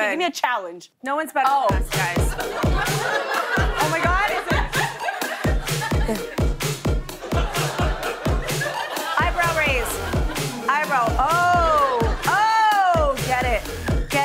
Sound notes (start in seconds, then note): 7.2 laughter